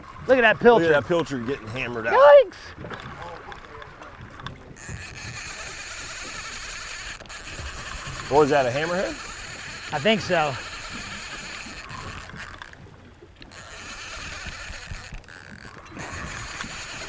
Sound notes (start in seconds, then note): 5.3 fishing rod reeling; 13.8 fishing rod reeling